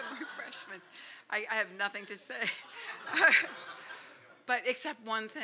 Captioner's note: laughter